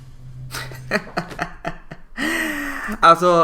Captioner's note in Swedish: Små skrattar